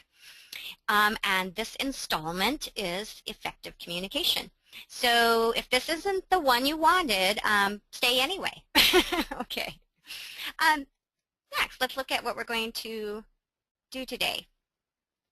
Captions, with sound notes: and this installment is Effective Communication. So if this isn't the one you wanted, stay anyway (laughs) okay. Let's look at what we're going to do today,